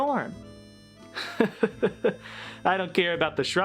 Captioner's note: in Carl's voice; chuckles; in FDR's voice